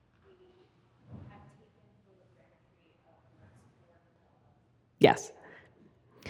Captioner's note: faintly speaking; faintly speaking